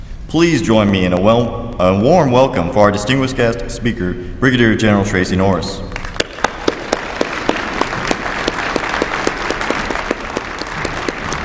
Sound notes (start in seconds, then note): 5.9 applause